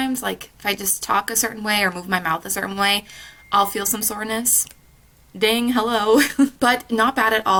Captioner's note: phone ding